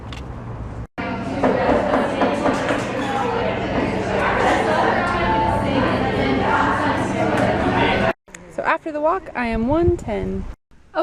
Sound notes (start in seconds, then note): 1.0 general chatter